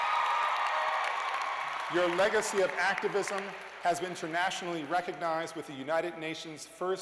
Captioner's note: cheers and applause